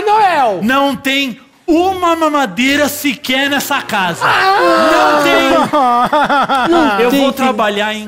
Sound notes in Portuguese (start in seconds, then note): 4.2 choro